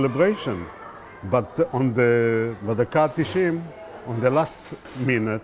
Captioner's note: hebrew